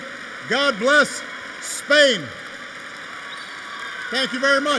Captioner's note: applause